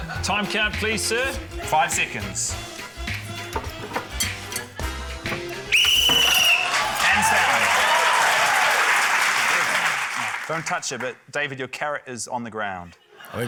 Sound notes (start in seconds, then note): 5.6 blows whistle; 6.2 cheering, applause